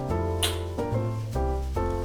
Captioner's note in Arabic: موسيقى هادئة; أصوات التقبيل